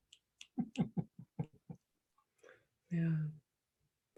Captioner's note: laughs